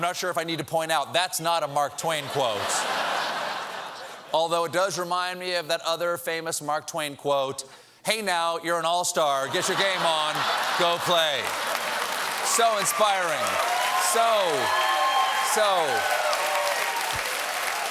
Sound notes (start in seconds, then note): 0.0 laughter; 9.4 laughter; 14.5 cheers and applause